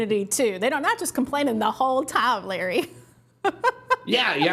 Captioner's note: laughs